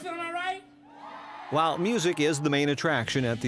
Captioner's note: audience cheers; voiceover